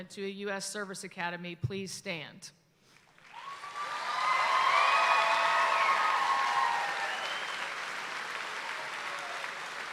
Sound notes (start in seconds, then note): 3.1 audience applauds and cheers